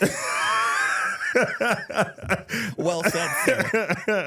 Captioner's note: laughing